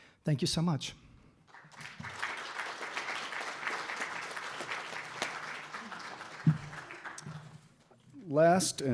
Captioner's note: applause